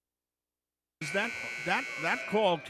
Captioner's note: buzzer buzzes